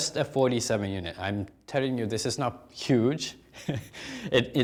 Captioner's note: chuckles